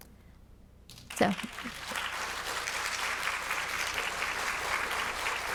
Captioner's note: attendees applauding